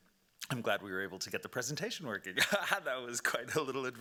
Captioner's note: laughing